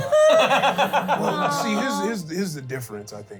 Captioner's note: laugh